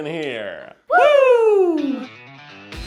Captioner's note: cheers; funky music